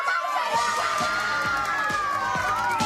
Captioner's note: crowd cheering